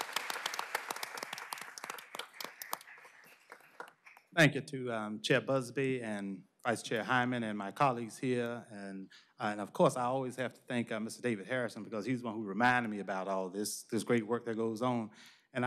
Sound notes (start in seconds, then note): 0.0 applause